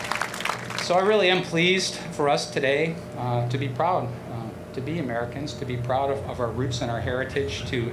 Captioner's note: applause